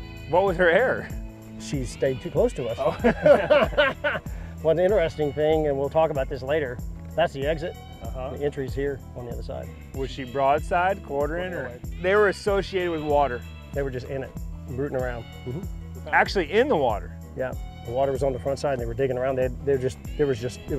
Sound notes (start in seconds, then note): 2.8 laughs